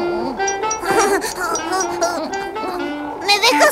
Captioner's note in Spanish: Risas